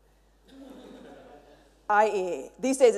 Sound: mild laughter

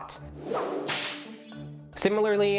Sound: whip snapping

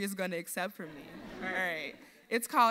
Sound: audience laughs

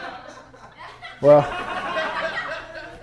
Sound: laughter

